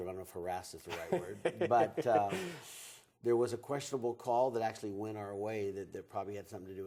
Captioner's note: laughs